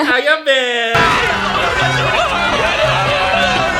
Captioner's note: people screaming